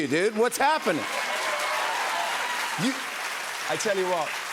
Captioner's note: cheers and applause